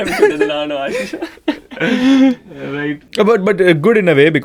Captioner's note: group laughs